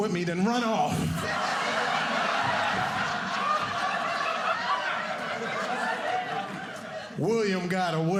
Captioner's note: audience laughing